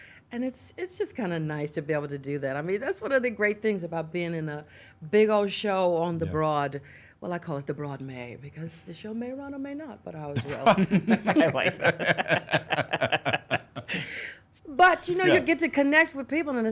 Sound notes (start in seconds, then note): 10.4 laughs